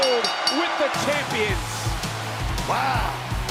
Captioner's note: bell rings